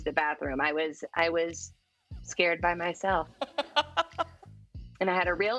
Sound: laughs

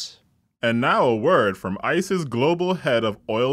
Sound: voiceover

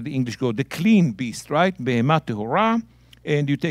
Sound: speaking in Hebrew

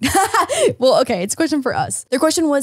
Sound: laughs

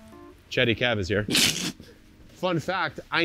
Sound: snorts

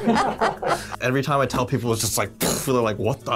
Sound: blows raspberry

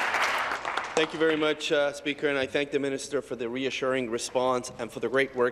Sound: applause

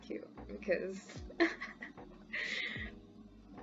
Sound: laughing

